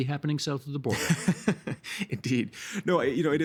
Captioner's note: chuckling